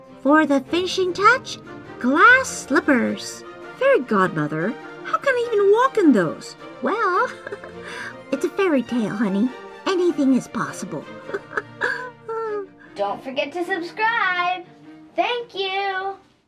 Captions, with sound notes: For the finishing touch, glass slippers! Fairy Godmother? How can I even walk in those? Well... [giggle] It's a fairytale honey Anything is possible! [giggle giggle] Don't forget to subscribe! Thank you!